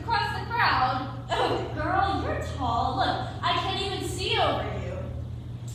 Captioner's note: giggles